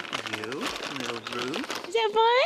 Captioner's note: crinkle of treat bag